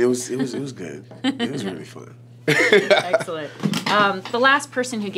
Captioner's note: laughs